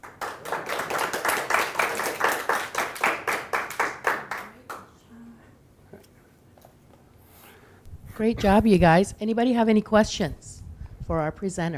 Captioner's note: audience clapping